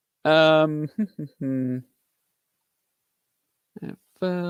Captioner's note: vocalizing